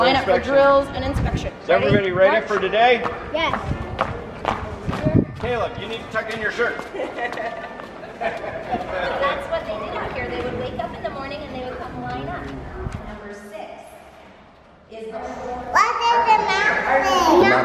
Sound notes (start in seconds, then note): 7.0 laughs